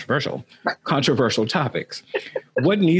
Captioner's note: laughs lightly